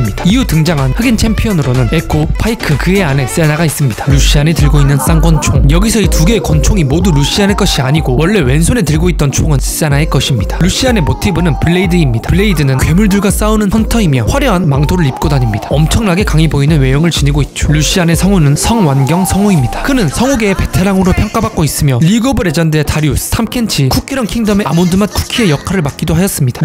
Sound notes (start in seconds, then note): 19.6 Korean